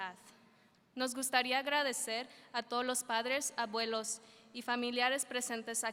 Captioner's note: speaking in foreign language